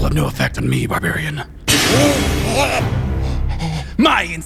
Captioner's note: Gotoh gasping shockingly